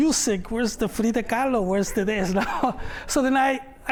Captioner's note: laughter